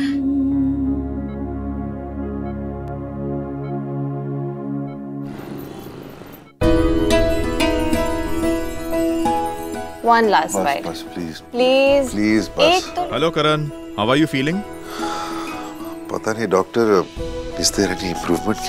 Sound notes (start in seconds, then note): 5.2 Traffic sound